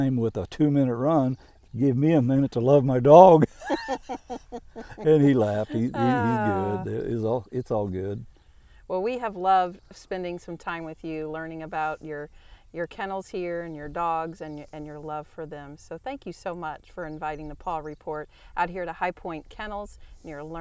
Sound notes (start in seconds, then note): 3.3 laughing